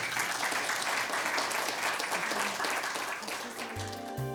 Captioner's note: audience applauding; gentle music